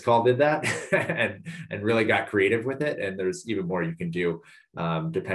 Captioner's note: laugh